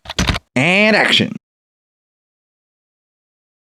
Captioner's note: typing